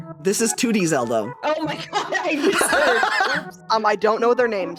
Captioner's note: laughing